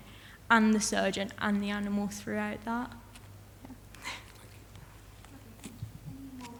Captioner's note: chuckles